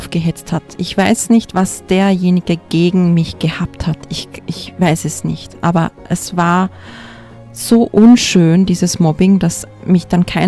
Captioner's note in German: seufzt